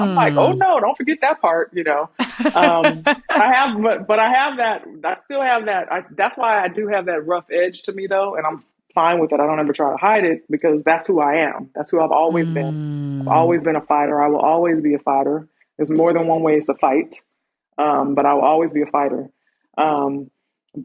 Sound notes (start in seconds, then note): 2.2 laughter